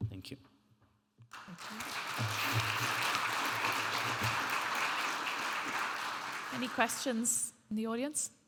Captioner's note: audience applauding